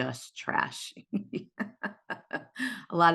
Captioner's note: laughs